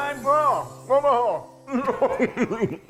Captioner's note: exclaiming; laughing